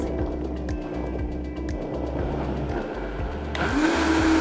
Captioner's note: blender grinds